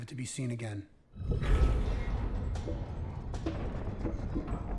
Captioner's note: metal creaking